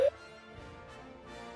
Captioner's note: bip